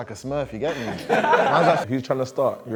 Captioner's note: laughter